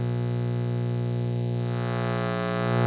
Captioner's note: buzz